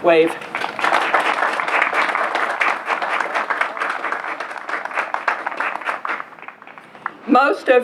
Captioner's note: applause